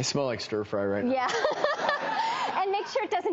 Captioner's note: laughs